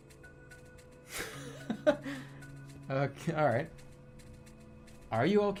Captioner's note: bursts out laughing